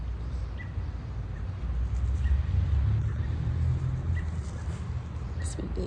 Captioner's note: birds chirping